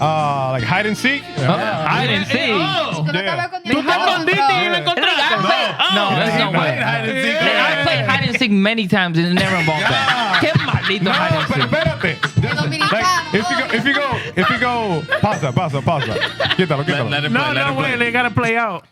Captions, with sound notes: Oh, like hide and seek? Hide and seek? (Speaking Foreign Language) No, that's not what I played. I played hide and seek many times, and never involved that. (Speaking Foreign Language) No, but benefit! You know me, I have-- If you go pasta, pasta, pasta. Get that, okay? No, no, wait, they gotta play out.